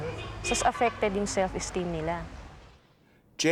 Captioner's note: in Filipino